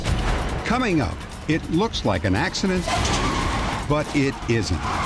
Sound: tires screeching

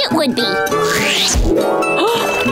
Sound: gasping

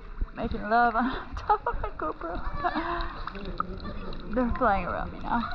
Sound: laughs

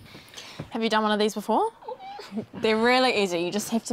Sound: squeals quietly

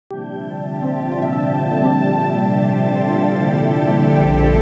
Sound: black Holes Sonification Sound Plays

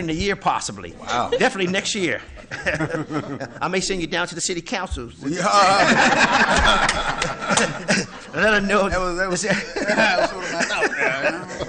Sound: laughter

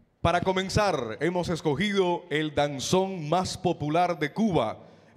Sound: MC speaking in Spanish

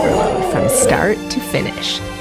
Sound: dog howling

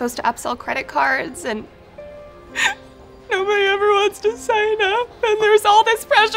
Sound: crying

